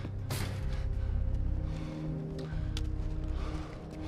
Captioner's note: breathing heavily